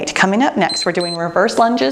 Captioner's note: timer beeps